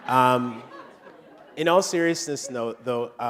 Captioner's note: laughter